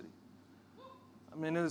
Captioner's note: audience member cheering